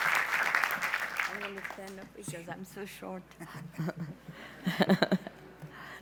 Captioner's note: laughs